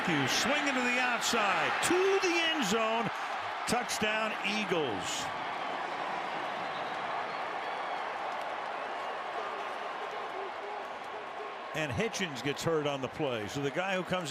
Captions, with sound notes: Mathews swinging to the outside to the end zone. Touchdown, Eagles. [crowd cheering] And Hitchens gets hurt on the play.